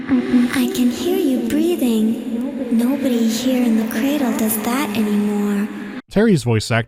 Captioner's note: girl's voice is preceded by its echo